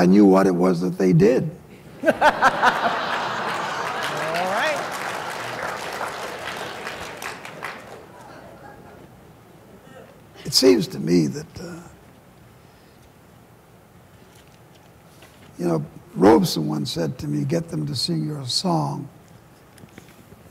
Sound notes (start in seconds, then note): 1.8 laughter; 2.8 applause